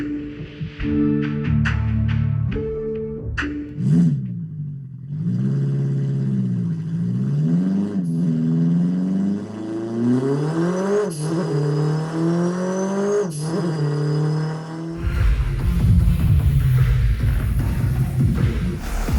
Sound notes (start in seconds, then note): 3.9 engine revs; 9.4 engine accelerates